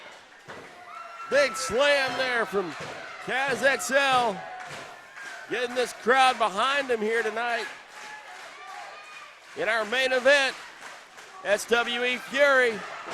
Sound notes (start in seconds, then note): 5.1 crowd cheers; 9.4 crowd claps